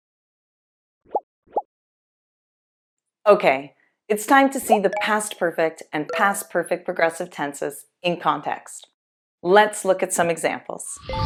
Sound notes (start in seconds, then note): none